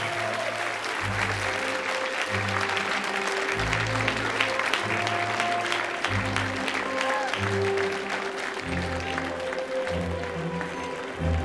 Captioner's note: cheering and Applause